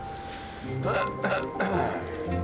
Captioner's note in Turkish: Serkan boğazını temizledi